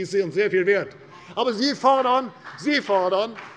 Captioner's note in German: Beifall bei der CDU